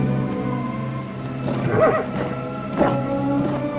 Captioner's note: horse neighing